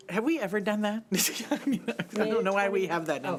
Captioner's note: laughing